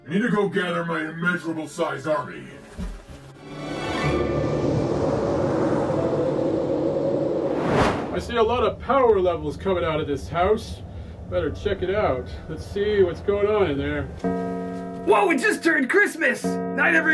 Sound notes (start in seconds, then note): 13.1 clock bell rings